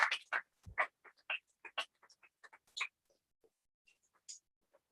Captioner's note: applause